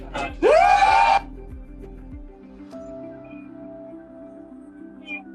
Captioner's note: cheering